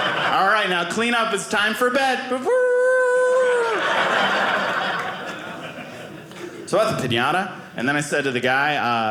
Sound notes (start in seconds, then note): 3.5 audience laughing